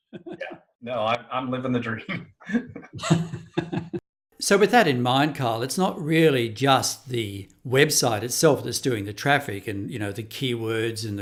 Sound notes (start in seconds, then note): 1.9 laughing